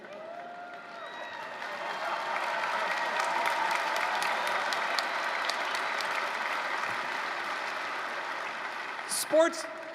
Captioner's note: applause